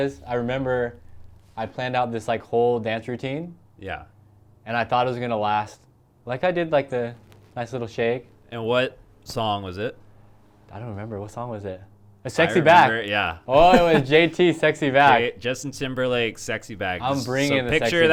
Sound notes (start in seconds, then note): 13.5 laughs